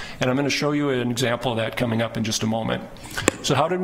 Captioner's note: none